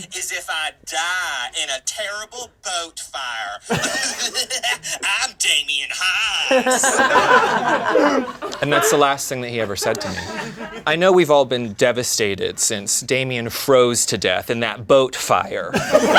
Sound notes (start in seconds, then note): 3.6 laughing maniacally; 6.9 laughing